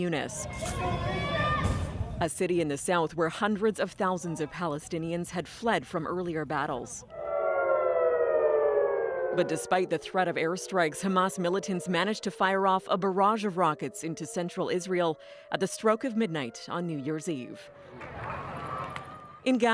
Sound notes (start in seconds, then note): 9.0 sirens